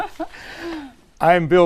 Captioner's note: laugh